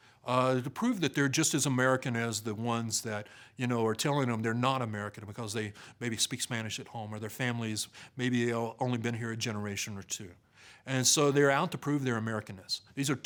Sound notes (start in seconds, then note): none